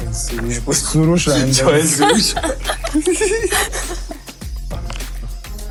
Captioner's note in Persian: خنده